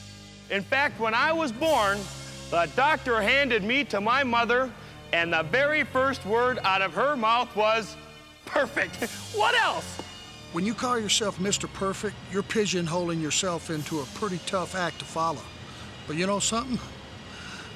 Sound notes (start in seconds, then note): 8.8 laugh